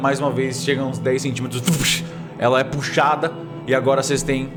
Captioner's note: voosh